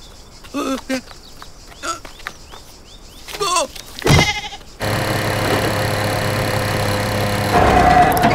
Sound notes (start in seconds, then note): 0.0 footsteps tapping; 0.0 jaws crunching; 0.5 man chattering; 3.2 man yells; 4.1 sheep cries; 4.8 vehicle roaring; 4.8 foot clunks